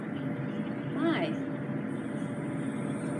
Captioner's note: electronic Voice